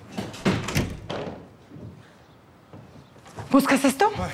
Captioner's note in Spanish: Sonido al abrir la puerta